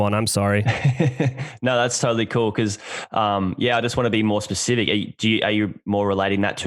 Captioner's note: laughs